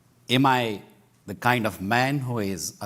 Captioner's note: none